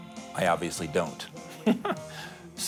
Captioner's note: chuckles